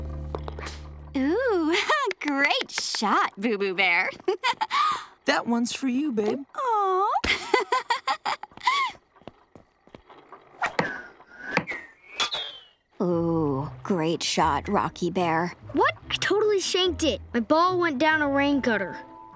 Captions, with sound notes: Ooh, great shot boo-boo bear. - That one's for you, babe. - Aww. [laughing] Oh, great shot rocky bear. What? I totally shanked it. My ball went down a rain gutter.